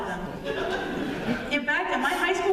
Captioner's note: laughter